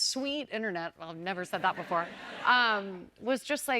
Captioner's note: laughter